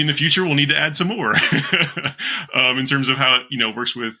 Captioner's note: chuckles